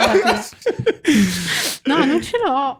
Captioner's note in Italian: laughter